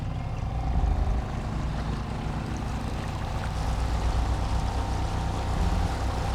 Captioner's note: boat engine revs; water sloshing